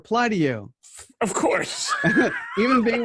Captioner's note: laughing